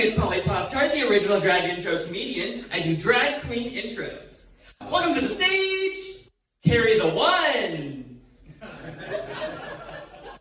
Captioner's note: audience laughter